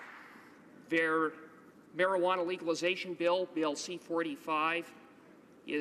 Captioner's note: some applause